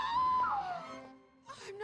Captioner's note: screaming